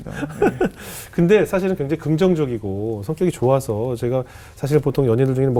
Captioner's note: laughing